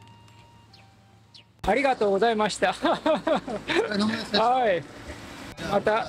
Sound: laughter

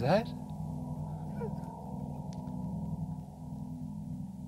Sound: laughs

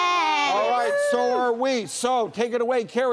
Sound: woman cheering

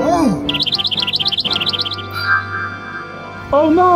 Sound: sliding whistle sound effect; bird chirping

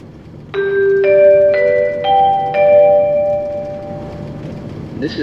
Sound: door Chime

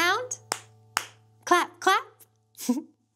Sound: clapping

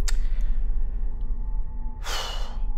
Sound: sighs

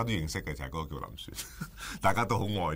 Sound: chuckles

